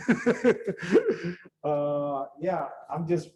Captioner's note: laughs